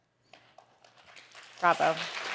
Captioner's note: audience applauding